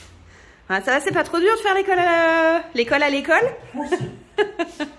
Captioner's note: laughs